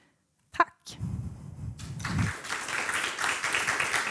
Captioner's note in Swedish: Applåder